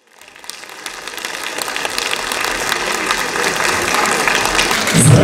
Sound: applause

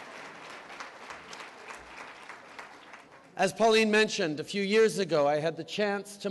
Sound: applause

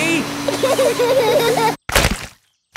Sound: laughter

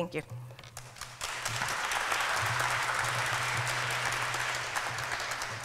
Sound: applause

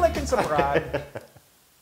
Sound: laugh

